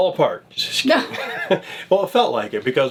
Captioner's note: laughs